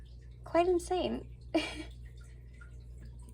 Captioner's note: laughter